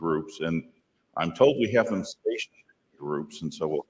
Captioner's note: none